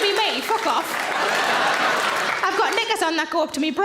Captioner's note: audience laughs